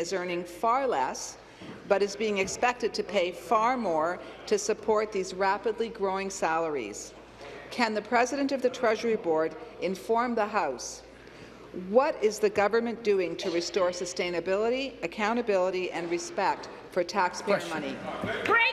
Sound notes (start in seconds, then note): none